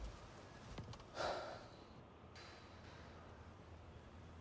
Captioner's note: Daniel sighs